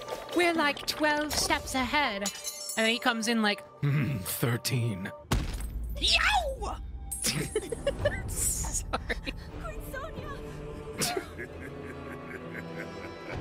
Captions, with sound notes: “We're, like, 12 steps ahead.” And then he comes in like, [Ganondorf Voice] Thirteen. Yee-ow! [Laughter] Sorry... [Quiet Laugh]